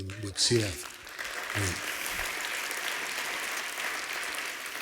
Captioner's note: applause